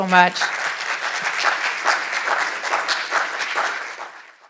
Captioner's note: audience applauding